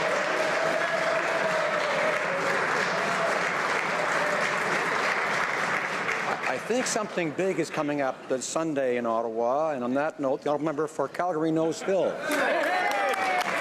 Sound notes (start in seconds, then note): 7.5 some Applause